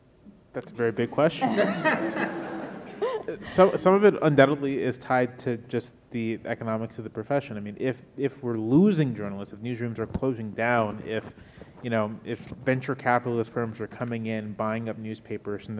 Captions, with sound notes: - That's a very big question. (audience laughing) Some of it undoubtedly is tied to just the economics of the profession. I mean if we're losing journalists, if newsrooms are closing down, you know if venture capitalist firms are coming in, buying up newspapers